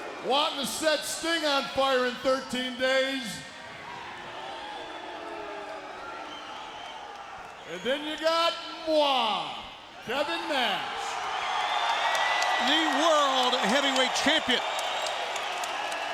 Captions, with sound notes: wanting to set Sting on fire in 13 days. And then you got moi, Kevin Nash. (audience cheering) The world heavyweight champion.